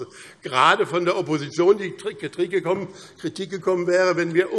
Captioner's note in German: none